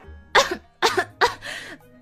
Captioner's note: coughs